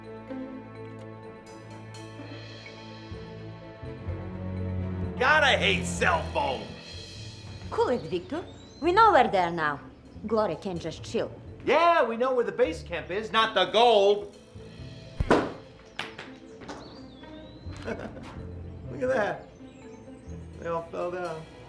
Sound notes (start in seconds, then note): 15.2 thumping sound; 17.7 laughs